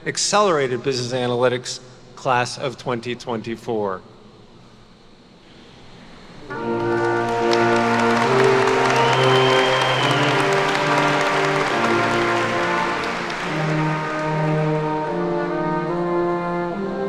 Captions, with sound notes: Accelerated Business Analytics class of 2024. (attendees cheer and clap) (poignant music)